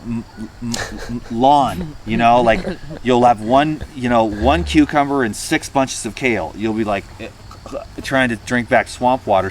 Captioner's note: gagging noise